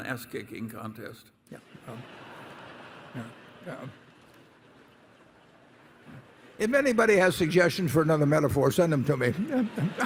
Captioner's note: laughter; laughter